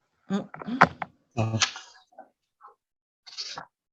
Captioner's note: voice muffling